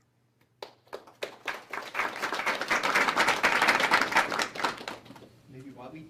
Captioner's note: applause